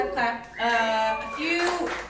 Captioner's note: audience applauding